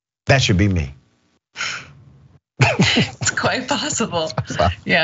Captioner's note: laugh